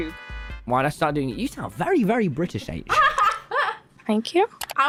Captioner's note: laughs